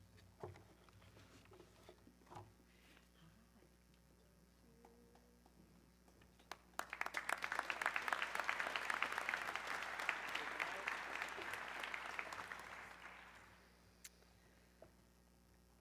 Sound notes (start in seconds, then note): 6.4 audience clapping